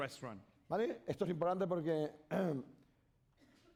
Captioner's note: speaking spanish